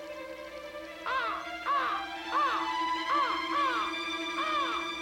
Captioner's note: crow squawking